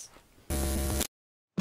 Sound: glitch sound

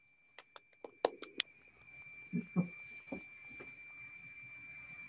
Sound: all applauding

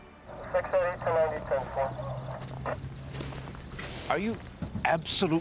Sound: voice on police radio

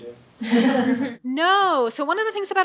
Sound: crowd laughs

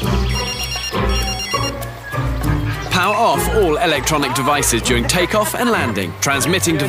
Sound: phone ringing

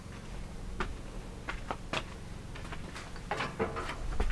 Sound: footsteps clattering

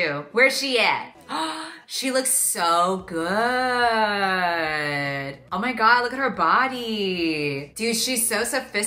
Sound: gasp

